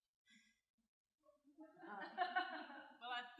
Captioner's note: laughter